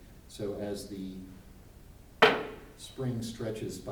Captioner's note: weight thuds on table